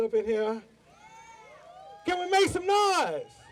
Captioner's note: audience yells